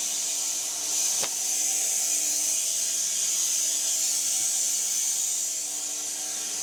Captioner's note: woodcutting machine hissing continues